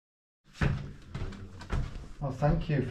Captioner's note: footsteps stomping